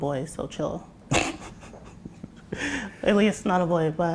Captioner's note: laughs